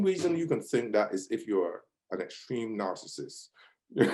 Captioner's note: laughs